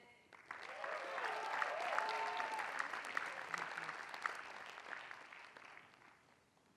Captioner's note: applause